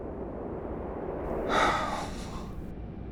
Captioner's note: Heavy Guy sighs